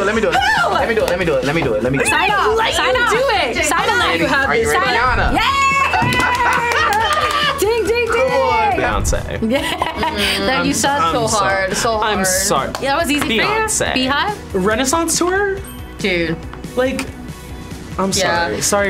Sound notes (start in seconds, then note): 5.3 cheers loudly; 9.4 host laughs loudly